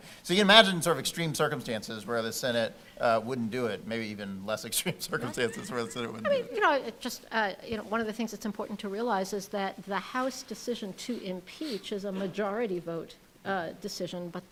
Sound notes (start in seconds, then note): 5.1 laughing